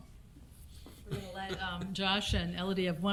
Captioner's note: chuckling